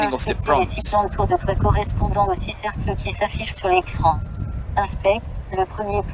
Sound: speaking in foreign language

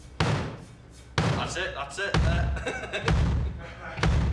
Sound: laughs

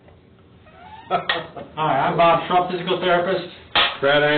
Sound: laughing

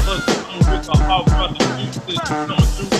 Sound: murmurs

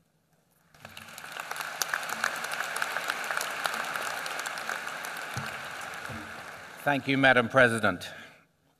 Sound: applause

